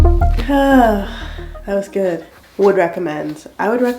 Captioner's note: sigh